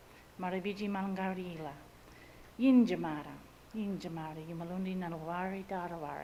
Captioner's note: speaks in Ngunnawal language